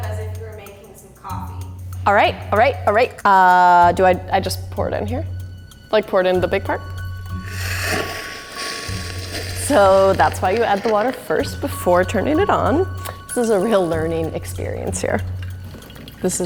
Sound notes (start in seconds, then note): 7.2 hissing